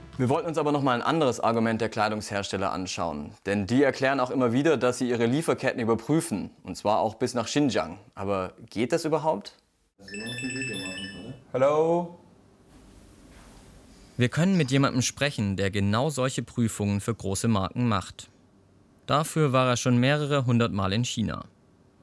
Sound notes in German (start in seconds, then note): 9.9 Klingeln